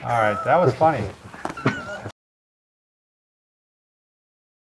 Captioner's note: laughs